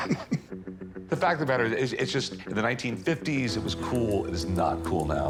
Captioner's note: laughs